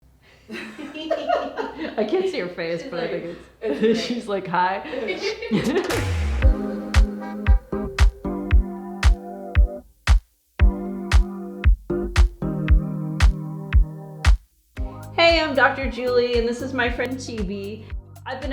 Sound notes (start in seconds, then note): 0.5 laughs; 5.8 upbeat music